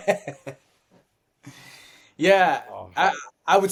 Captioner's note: laughs